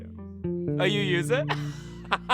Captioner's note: laughter